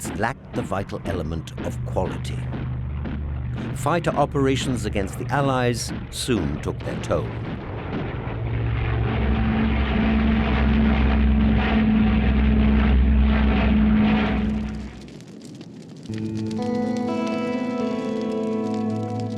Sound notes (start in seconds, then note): 9.1 engines roaring; 16.0 somber music